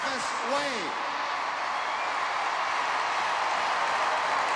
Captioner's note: crowd cheering